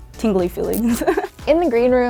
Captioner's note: chuckles